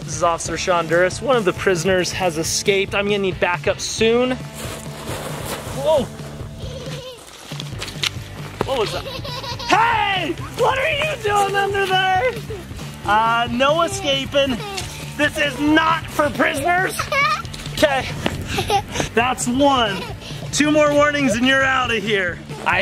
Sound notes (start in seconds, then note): 7.1 laughs